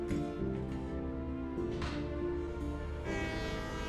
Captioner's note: door shuts; train horn